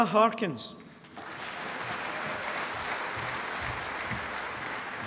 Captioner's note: applause